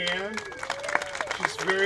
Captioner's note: applauding